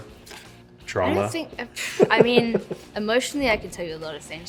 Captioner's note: laughs